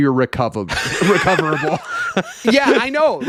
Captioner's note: laughing